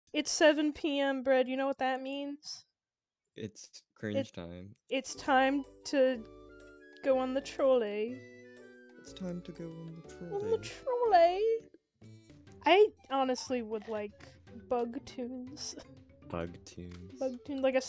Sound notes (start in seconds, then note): none